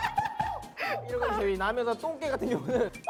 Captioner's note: he's crying